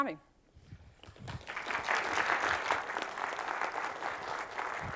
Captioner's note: applause